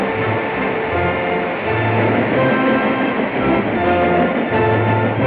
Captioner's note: train chugging; epic music